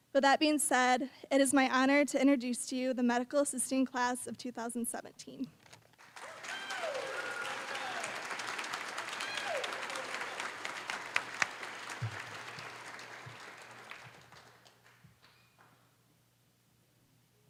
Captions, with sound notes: With that being said, it is my honor to introduce to you the Medical Assisting class of 2017. (cheering, applause)